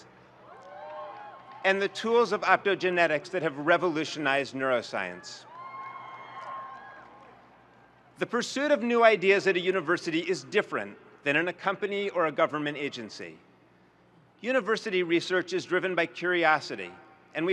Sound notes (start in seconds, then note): 0.5 audience cheers; 5.5 audience cheers